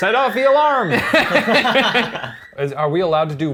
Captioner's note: all laugh